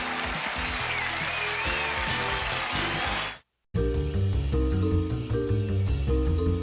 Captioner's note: applause